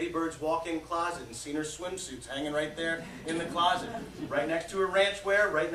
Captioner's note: laughter